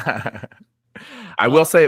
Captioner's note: laughing